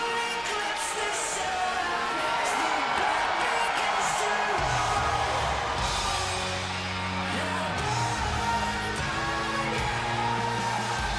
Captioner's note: crowd cheering